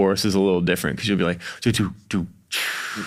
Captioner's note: vocalizes